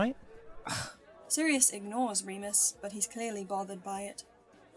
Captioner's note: Remus makes an unimpressed noise